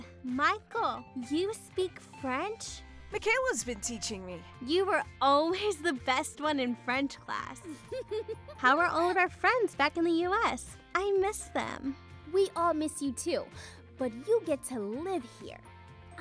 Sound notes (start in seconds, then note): 7.6 giggling